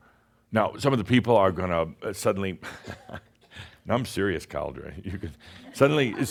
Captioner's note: chuckles